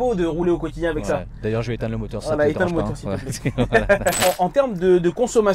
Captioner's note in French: rires